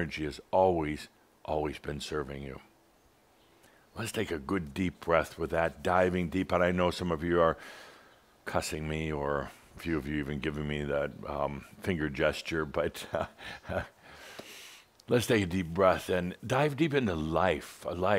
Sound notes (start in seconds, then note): 12.9 Adamus chuckles